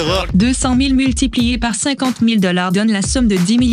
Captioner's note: female voice